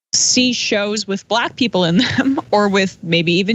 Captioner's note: laugh